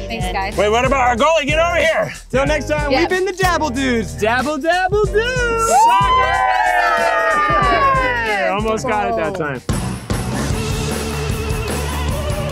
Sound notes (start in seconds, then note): 5.6 cheers; 9.7 upbeat music